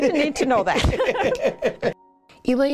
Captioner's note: laughter